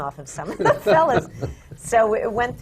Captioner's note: laughs